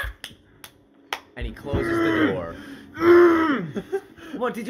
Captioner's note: anger noises